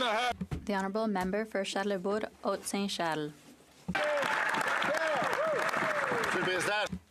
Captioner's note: some Applause